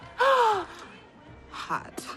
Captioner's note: gasping